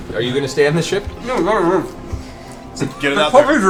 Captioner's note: laughs